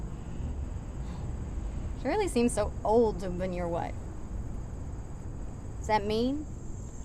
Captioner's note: scoffs